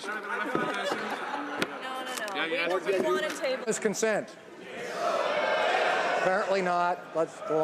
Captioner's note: laughing